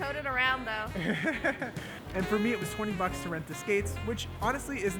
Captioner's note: laughs